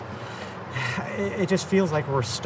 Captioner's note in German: seufzt